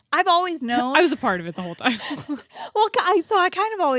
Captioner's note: both laughing